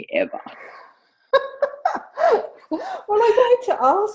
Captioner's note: laughing